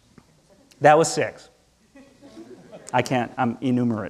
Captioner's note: audience laughing